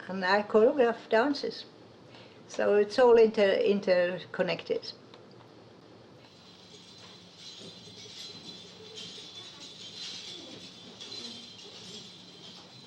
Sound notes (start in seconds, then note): 6.2 bells chiming